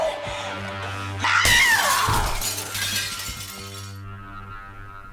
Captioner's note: screaming; glass shattering